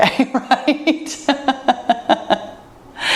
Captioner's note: laughs